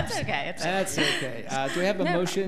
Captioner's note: laughs